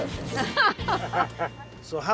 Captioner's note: chuckling